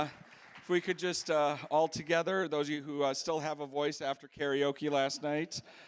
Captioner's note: cheers and applause